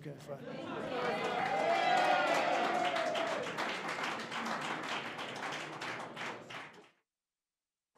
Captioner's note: applause